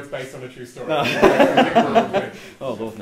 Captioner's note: all laugh